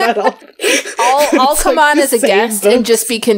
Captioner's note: laughs